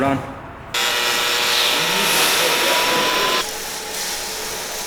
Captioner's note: welder buzzing